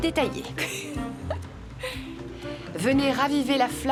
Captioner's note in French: rire